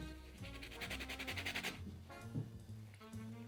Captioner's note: grating